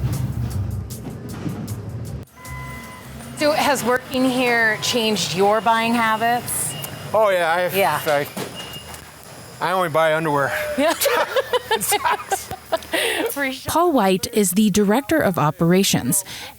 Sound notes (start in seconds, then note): 10.4 both laughing